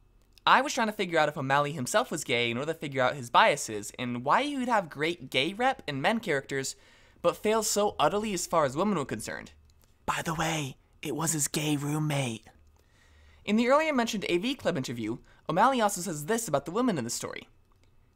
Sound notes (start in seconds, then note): 9.9 whispers